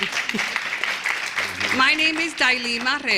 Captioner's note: applause